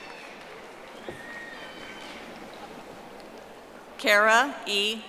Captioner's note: audience applauding